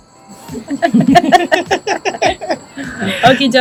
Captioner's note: laughs